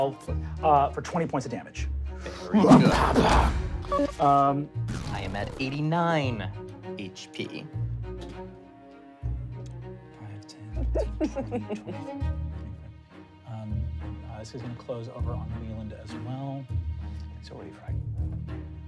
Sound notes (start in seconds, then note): 2.6 banging